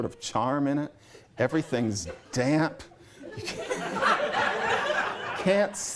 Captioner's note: laughter